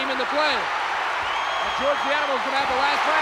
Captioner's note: audience cheering